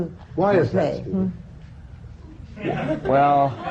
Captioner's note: laughter